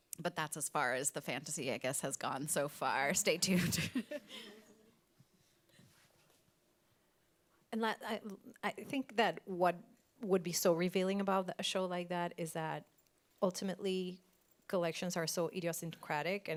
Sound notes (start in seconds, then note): 3.4 chuckles